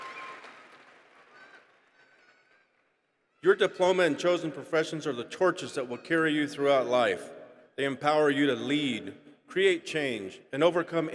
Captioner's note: applause